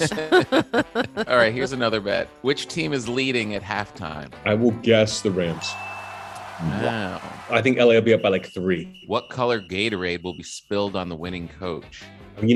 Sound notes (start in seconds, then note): 0.0 hosts laughing; 4.8 crowds cheering; 5.6 bell dings